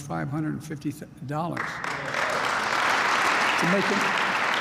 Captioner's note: applause